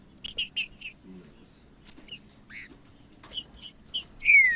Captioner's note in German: trinca ferro cantando